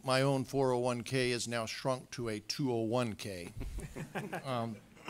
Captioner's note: laughter